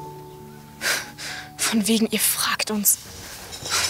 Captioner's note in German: Sie schnaubt